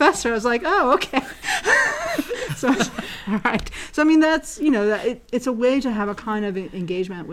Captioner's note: laugh